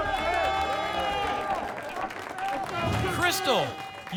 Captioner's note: applause and cheering cont